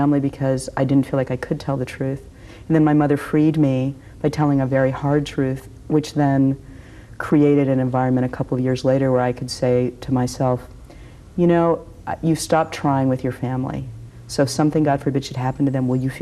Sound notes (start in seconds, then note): none